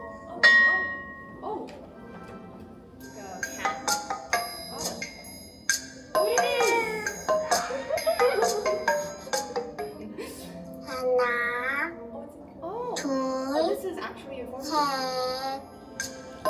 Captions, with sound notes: Oh! Oh! Oh, you. [happy noises] [counting in Korean] Oh! Oh, this is actually informative